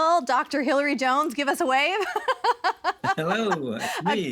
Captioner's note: laughing